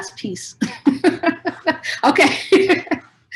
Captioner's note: chuckles